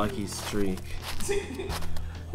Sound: echoing in his mind

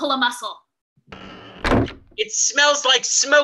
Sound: cabin door slams shut

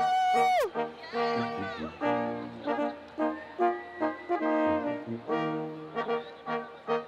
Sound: students cheering

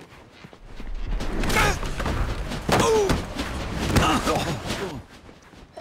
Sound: grunting

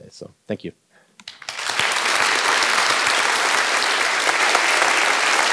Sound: audience clapping

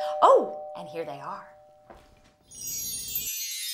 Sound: doorbell rings

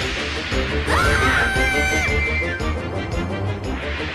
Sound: screams in fright

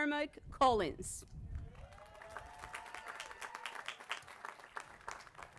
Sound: applause

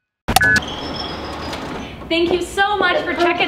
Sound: sound of doors opening

